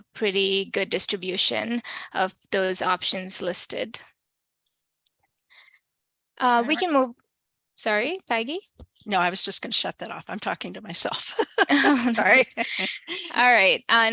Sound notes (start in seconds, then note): 11.2 laughter